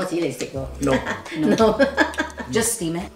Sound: laughs

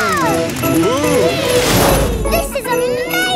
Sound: all exclaiming

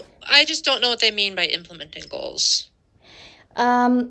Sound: none

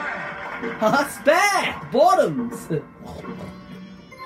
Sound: snorts 2x

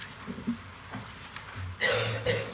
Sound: man coughs

